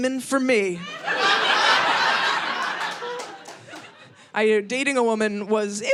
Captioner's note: audience laughing